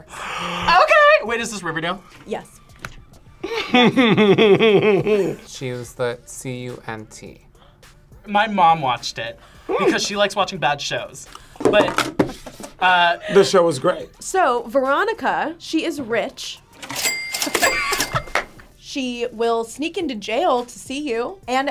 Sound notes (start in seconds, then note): 3.4 laughs; 16.8 cash register dings; 17.6 laughs